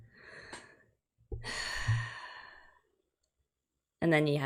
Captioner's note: sighs